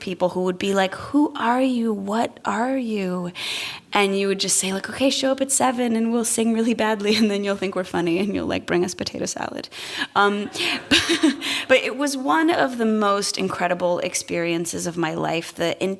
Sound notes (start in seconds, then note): 10.4 laughter